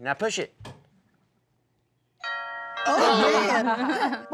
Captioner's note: door bell rings; laughter